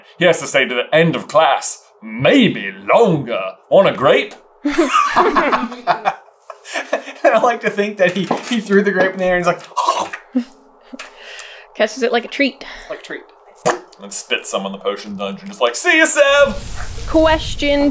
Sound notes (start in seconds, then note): 4.6 laughter; 10.1 chomp